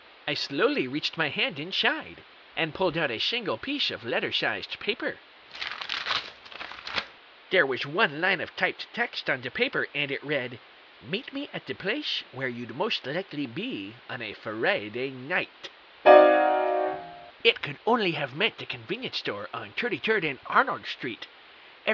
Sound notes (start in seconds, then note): 5.5 paper unfolding; 16.0 dramatic piano chord